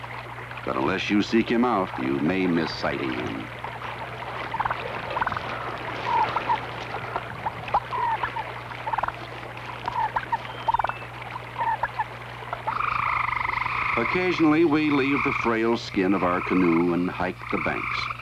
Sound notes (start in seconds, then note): 3.8 turkey sounds